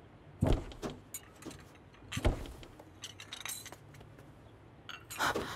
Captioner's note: Door closing